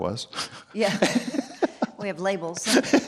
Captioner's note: both laughing